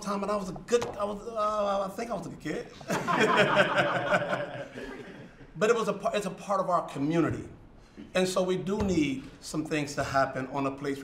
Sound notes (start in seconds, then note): 2.8 laughter